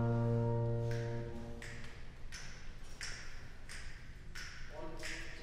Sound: snapping

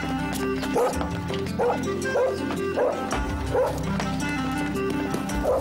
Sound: Humph barking excitedly

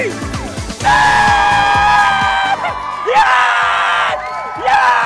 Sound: shouting

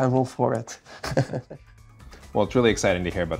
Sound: laughs

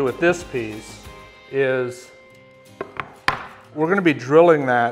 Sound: wood slapping table

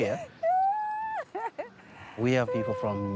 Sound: laughs

